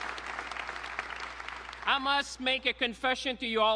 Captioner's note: applause